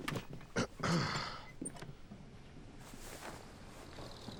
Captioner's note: clearing throat